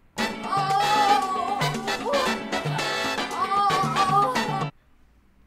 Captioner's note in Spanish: sonidos de sexo gimiendo